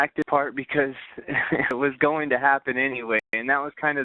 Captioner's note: laughing